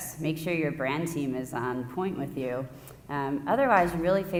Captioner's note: none